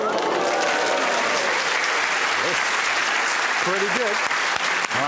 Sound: cheers and applause

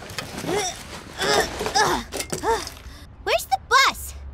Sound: grunting

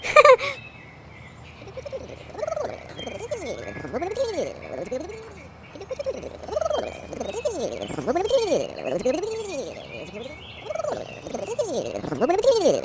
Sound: squiggling

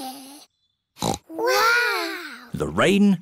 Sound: peppa snorts

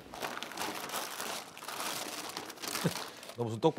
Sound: rummaging

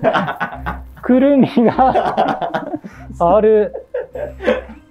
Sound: laughing; laughing

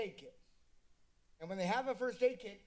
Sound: silence

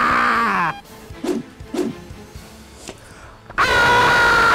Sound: whooshing; yells

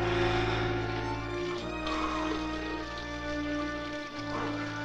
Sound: softly exhaling

